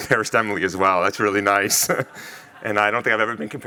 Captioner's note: chuckles